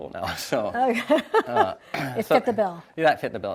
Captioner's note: laughing